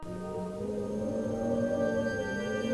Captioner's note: wind howls